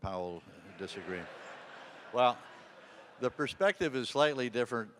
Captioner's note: audience laughing